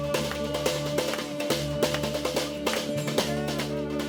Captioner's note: Pirate Clapping